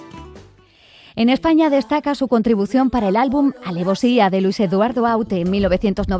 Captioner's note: speaking in Spanish